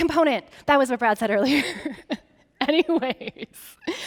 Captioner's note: laughing